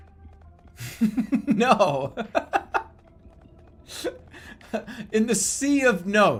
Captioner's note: bursts out laughing